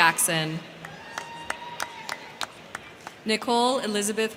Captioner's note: crowd cheering; crowd clapping